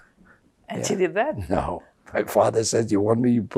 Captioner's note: laughing